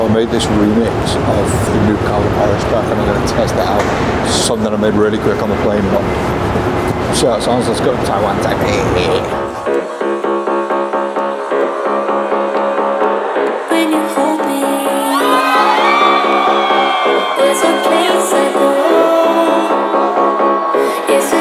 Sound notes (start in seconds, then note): 10.3 techno music; 14.9 crowd cheers